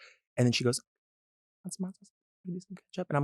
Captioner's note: whispers indistinctly